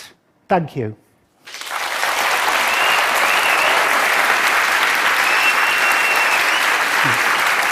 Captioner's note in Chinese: 掌聲